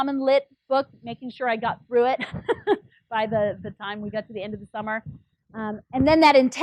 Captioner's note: laugh